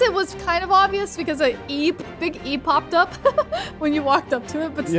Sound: laughing

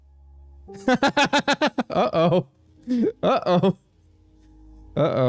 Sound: laughs

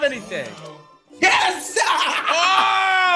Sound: laugh

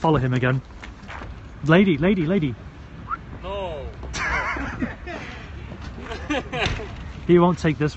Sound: whistles

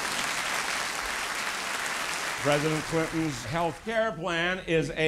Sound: applause

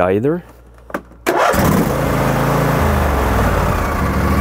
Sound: engine revs

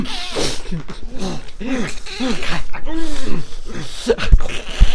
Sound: laughs

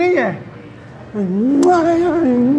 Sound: kisses him

